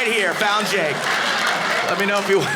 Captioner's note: audience laughing